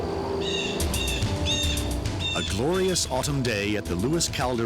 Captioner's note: birds chirping